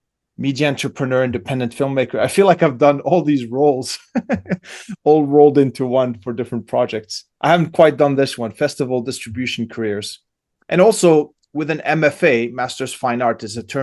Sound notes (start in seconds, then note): 4.0 laughs